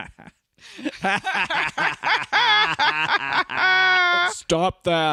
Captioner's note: obnoxious laughter